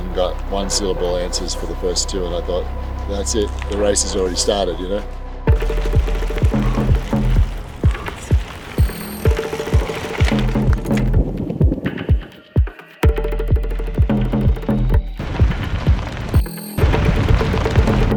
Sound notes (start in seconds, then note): 5.7 uptempo music; 9.1 bike gears grinding